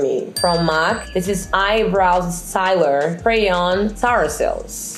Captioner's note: stuttering